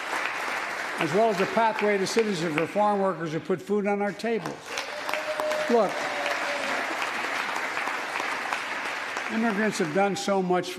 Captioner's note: applause